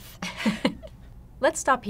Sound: both women laugh

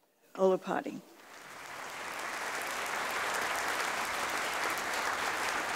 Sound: audience applauding

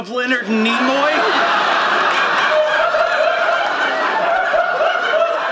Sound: audience laughing

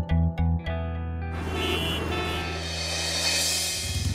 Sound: traffic noises

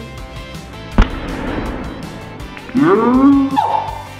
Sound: balloon pops; screams

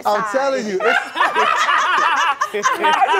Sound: group laughing

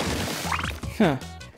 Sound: warbly chime

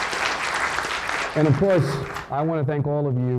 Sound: applause

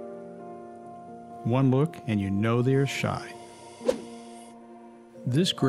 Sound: woosh

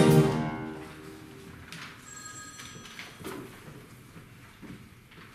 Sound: phone ring

